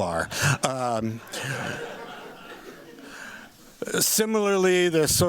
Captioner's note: laughter